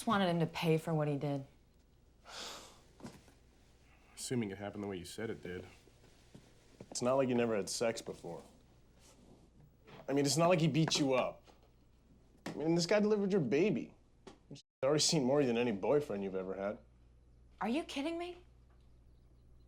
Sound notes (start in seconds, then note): 2.3 sighs